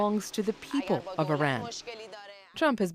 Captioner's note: speaking alternate language